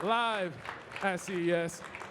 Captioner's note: audience clapping